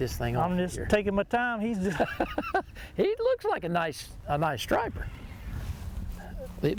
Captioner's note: laughs